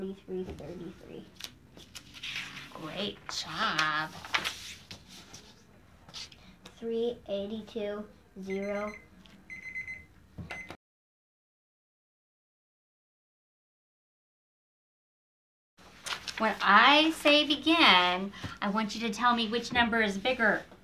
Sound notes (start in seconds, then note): 5.1 alarm Sounds